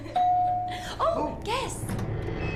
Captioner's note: doorbell ringing